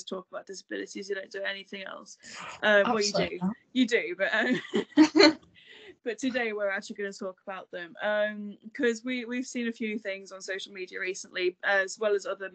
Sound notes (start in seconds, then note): 2.8 both laugh